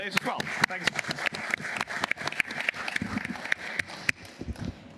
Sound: applause

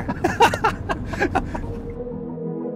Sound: laughing

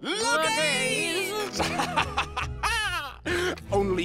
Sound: laughing

